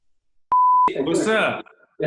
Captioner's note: beep